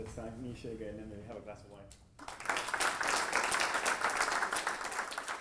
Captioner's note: applause